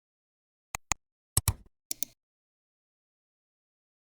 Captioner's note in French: 3 différents clics